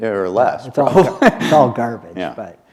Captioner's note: chuckle